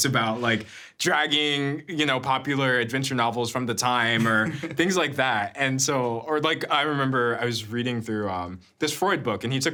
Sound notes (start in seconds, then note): 4.1 chuckling